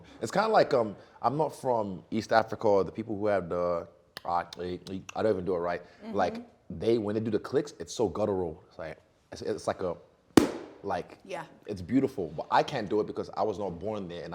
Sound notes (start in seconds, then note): 4.5 clicking tongue; 10.4 single clap